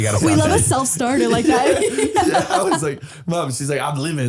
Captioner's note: laughing